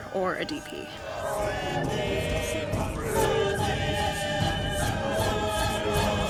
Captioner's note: chanting continues